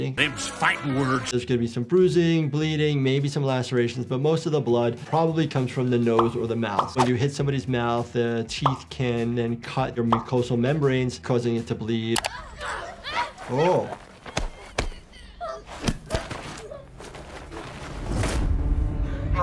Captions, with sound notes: Obviously, we should not be fighting. - Them's fighting words. There's gonna be some bruising, bleeding, maybe some lacerations, but most of the blood probably comes from the nose or the mouth. When you hit somebody's mouth, the teeth can then cut your mucosal membranes, causing it to bleed. (children grunting) - Oh!